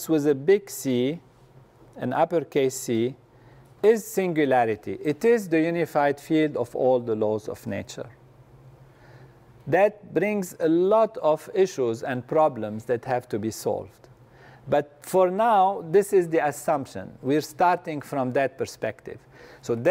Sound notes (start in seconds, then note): none